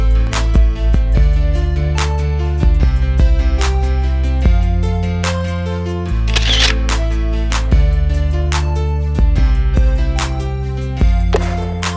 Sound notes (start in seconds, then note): 6.2 sound of camera clicking